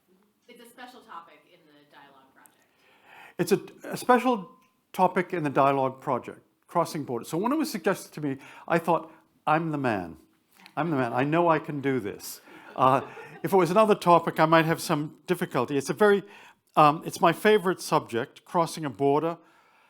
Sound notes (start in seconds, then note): 12.1 attendees chuckling